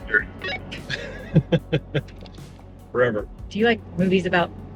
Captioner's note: laughing